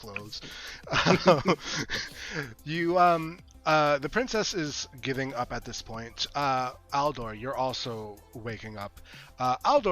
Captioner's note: chuckling